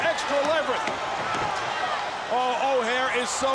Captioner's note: crowd chatter